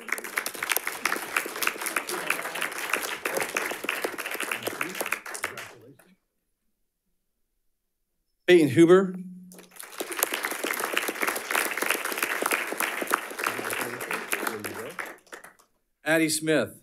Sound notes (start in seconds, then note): 0.0 audience applauding; 5.3 speaking faintly; 9.5 audience applauding; 14.1 speaking faintly